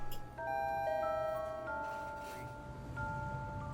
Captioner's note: doorbell chiming